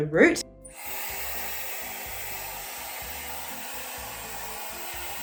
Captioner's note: hairdryer whirring